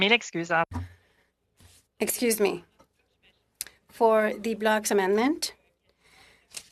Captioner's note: speaking French